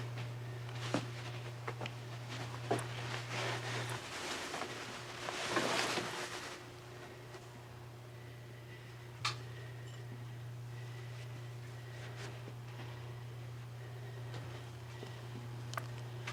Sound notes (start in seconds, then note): 10.6 Dr. Simon breathing nervously